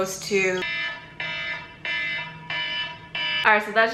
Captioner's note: loud obnoxious alarm sound repeat